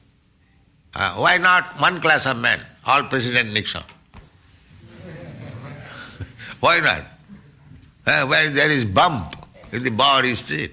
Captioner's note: laughter